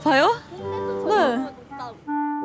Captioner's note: confident